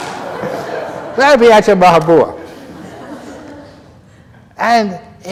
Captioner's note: laughter